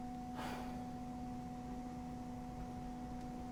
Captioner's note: sighs